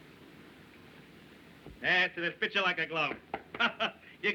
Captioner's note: chuckles